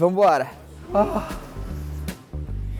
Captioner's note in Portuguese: suspirando